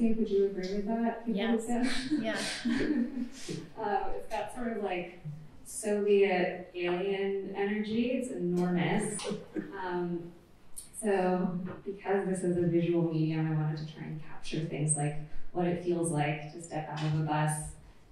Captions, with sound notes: Would you agree with that, people-- Yes. --who've been? Yeah. [LAUGHTER] It's got a Soviet alien energy. It's enormous. So because this is a visual medium, I wanted to try and capture things like what it feels like to step out of a bus